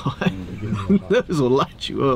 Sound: laughing

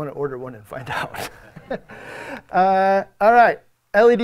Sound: audience members laugh

